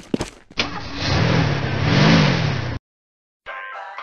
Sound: car starting

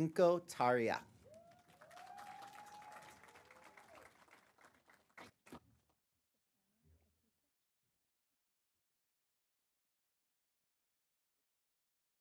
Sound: applause

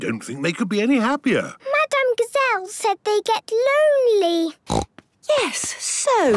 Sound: snorting

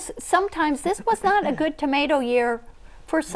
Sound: laughing

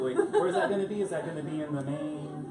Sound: laughs

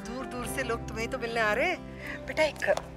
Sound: none

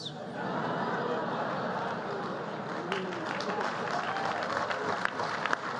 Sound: laughter and applause

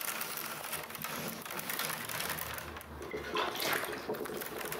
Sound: willows clatter, water ripples

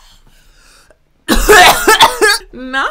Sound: coughing loudly

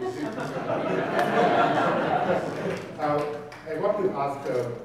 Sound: audience laughing

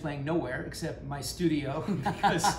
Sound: laughs

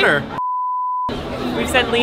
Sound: beep

